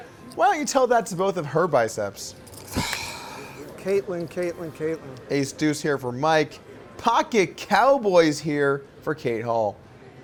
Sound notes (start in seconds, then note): 2.7 sighs